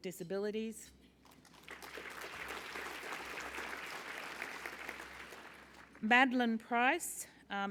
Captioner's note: applause